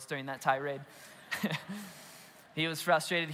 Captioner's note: congregation laughs